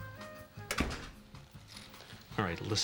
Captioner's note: door closes